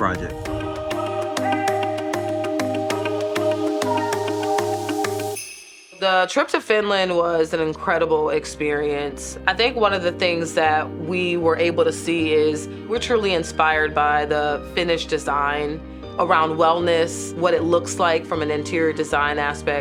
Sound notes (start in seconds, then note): 0.1 gentle upbeat music; 5.0 bell rings